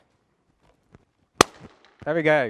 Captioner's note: balloon pops